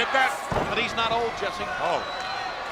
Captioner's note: body thudding